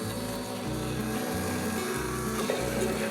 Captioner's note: blending noise